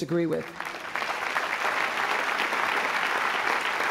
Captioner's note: applause